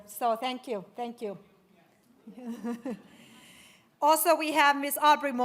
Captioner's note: laughs